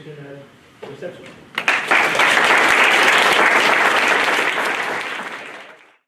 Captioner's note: clapping